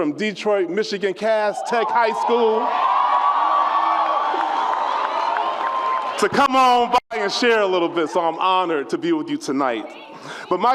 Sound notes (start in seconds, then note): 1.4 audience cheers